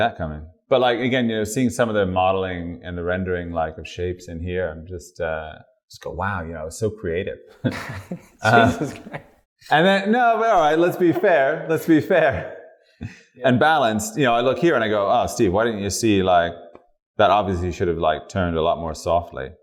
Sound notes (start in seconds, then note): 7.6 laughter